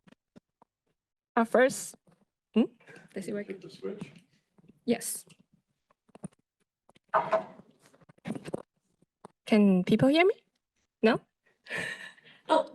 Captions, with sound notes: - Our first, hmm? - Does it work? - Hit the switch? - Yes. (mic scratching) Can people hear me? No?